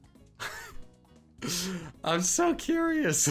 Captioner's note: laughing